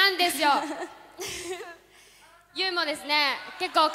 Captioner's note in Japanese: 笑い